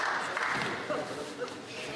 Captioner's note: applause